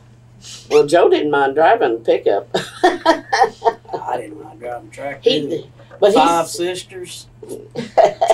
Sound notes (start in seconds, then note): 2.5 laughs